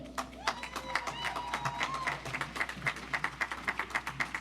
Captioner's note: audience applauds